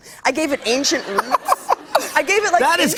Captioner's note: laughter